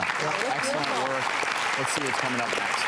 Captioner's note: audience applause